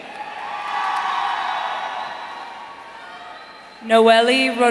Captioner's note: audience cheering